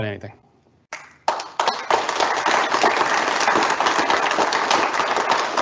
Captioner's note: audience applauding